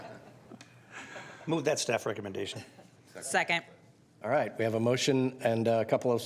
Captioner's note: laughter